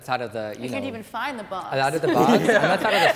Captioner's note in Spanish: Risas